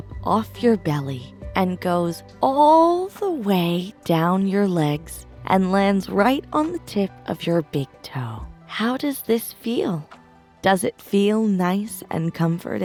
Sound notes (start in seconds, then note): none